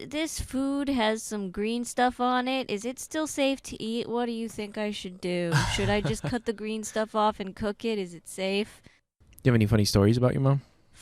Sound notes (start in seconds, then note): 5.5 laughing